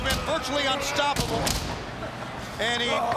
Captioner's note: body thuds